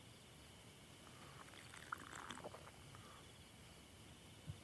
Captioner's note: Lance gulping